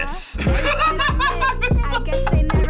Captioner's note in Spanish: ríe